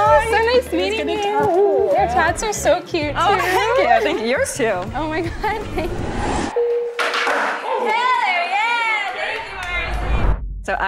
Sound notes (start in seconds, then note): 5.6 rising static; 6.5 bell dings; 6.9 skateboard lands; 9.8 whooshing